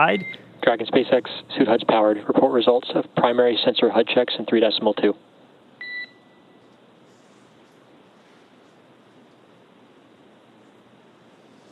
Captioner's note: beep